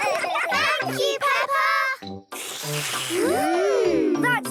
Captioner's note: all slurping